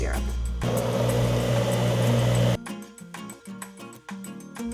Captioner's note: blender whirring